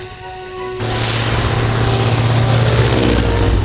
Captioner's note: whirring